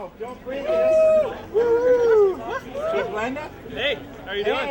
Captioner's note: Blendtec fan shouts